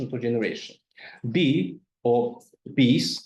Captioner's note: speaks in foreign language